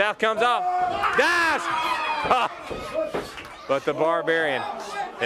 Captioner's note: crowd cheering